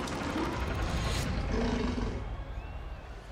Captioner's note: growling